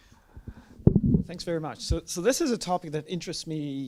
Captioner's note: voiceover